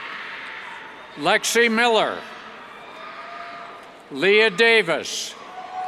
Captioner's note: cheers